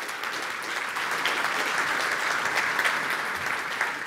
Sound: applause

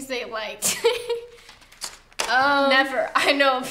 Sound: laughs

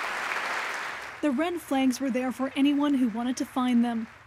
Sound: applause

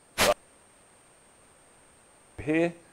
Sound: microphone cuts out

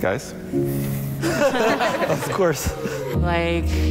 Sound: contestants laugh

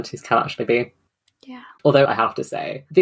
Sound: whispered

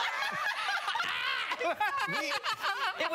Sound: laughter

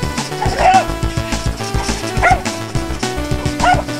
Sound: gaming music; barking

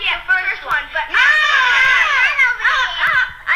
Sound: screaming

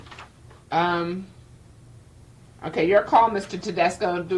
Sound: papers rustling

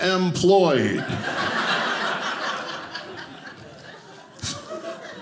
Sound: audience laughing

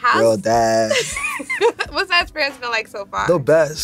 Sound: laughs

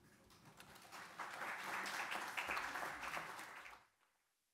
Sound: audience applauds

